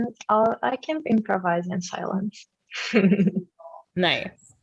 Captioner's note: giggles